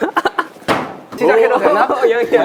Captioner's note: smacking in anger